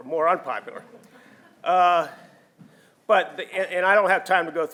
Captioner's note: audience laughing